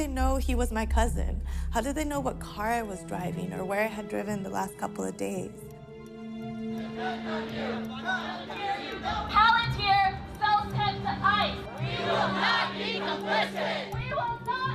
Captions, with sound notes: How do they know he was my cousin? How did they know what car I was driving or where I had driven the last couple of days?" [crowd chanting indistinctly] Palantir sells data to ICE. [crowd chants] We will not be complicit!